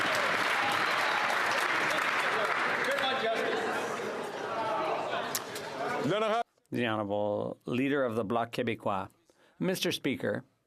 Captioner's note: some Applause